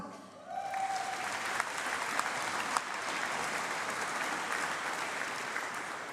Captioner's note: applause